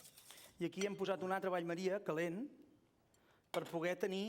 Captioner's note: non-english speech